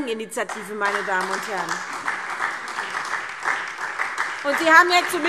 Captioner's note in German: Beifall